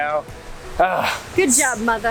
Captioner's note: grunts